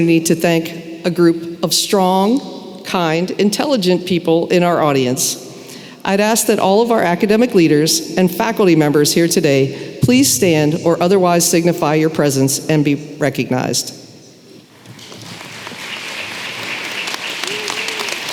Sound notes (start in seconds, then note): 14.8 applause